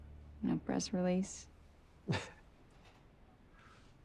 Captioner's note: laughing